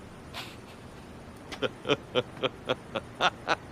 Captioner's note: laughs